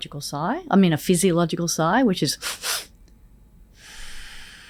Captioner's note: sighs